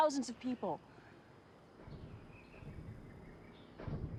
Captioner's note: bird chirp